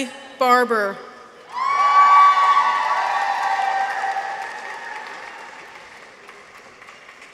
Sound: people cheer; audience applauds

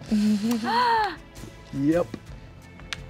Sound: gasps

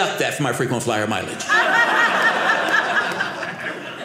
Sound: audience laughing

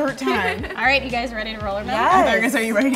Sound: laughs

